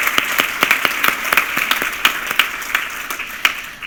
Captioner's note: applause